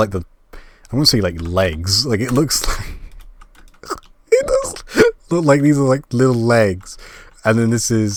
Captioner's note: laughing